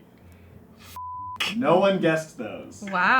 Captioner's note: beep